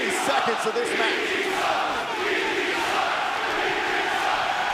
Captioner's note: fans chanting